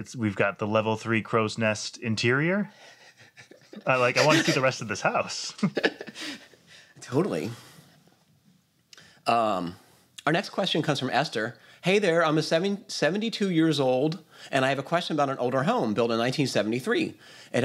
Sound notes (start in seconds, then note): 2.8 laughs